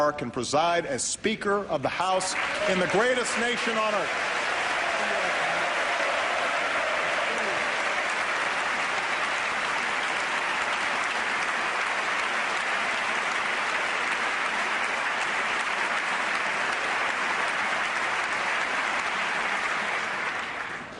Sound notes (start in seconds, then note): 4.4 applause